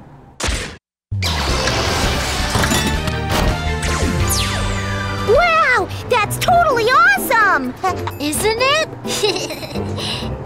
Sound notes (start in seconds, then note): 1.1 metallic clanging; 9.0 giggles